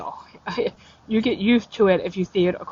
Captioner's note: laughs